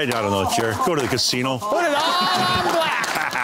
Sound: laughter

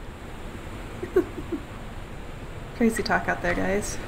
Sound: laughs

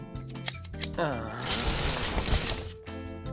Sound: sighing

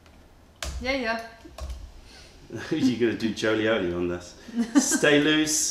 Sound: laughter

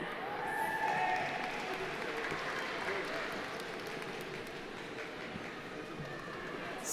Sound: audience cheering; audience applauding

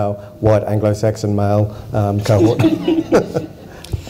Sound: laughter

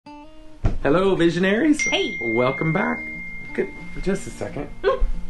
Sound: computer notification bell in background

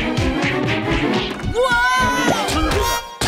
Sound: smacking

